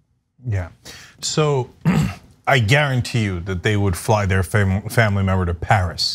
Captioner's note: cough